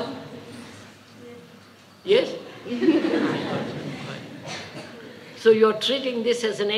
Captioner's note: laughter